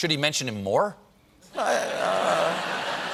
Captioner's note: laughter